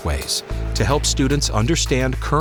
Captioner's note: metallic pounding